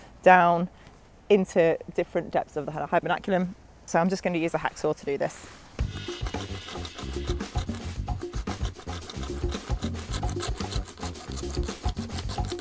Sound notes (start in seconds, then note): 5.8 upbeat drum riff; 9.5 sawing